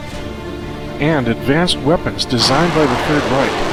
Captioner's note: rocket fires